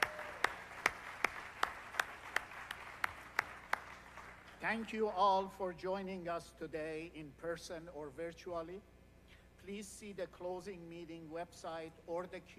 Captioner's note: applause